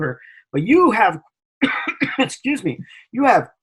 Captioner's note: coughs